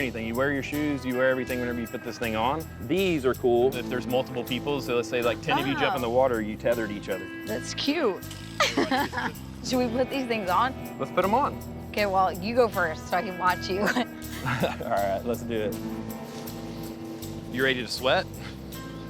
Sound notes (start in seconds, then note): 8.5 laughs